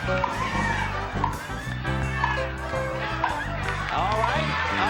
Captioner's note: cheering